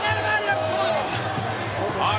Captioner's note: crowd boos